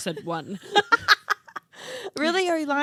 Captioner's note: laughing